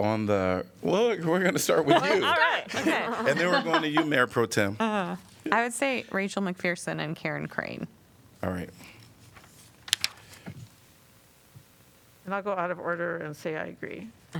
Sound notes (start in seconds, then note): 1.2 laughter